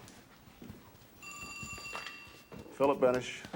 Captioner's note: phone ringing